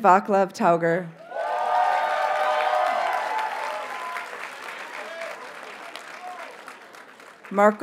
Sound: audience cheers and applauds

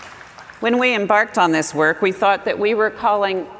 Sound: applause

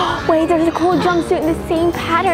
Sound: gasps

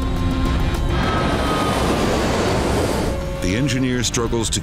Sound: plane soaring

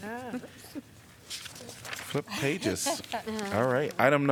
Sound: laughter

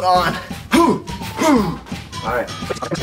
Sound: grunt

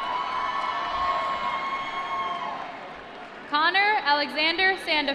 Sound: applause

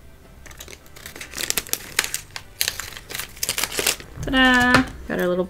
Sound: plastic crinkling

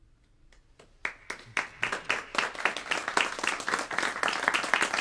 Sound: applause

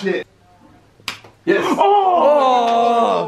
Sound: slapping hand

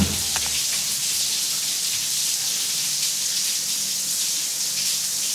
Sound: shower splashing

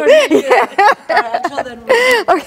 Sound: laughs

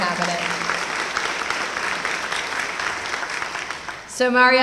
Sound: applause

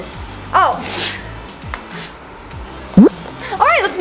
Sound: scoffs

